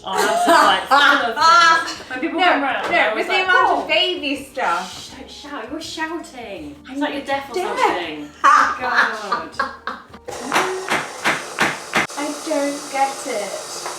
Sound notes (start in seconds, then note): 0.0 laughs; 7.6 laughs; 10.3 stand mixer whirs; 10.4 spoon bangs